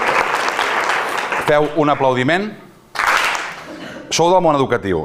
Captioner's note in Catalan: Aplaudeixen; Aplaudeixen una sola vegada